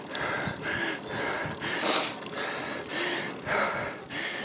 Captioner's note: Garmin stops and Starts